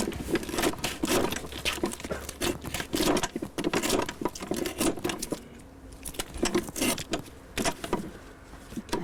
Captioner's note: sound of cutting dried anglerfish with a sickle